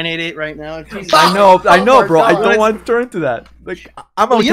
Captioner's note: laughs